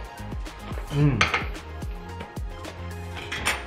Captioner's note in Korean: 맛에 감탄하는 소리